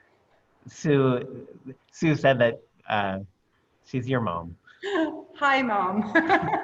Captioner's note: laughter